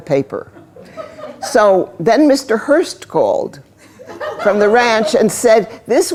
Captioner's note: laughter